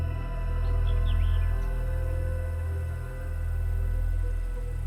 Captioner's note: birds chirping